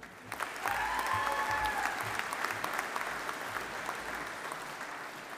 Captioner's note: audience applauding